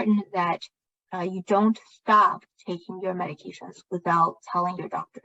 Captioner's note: speaking chinese